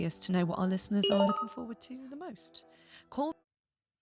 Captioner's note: notification sound